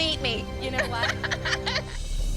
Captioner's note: laughs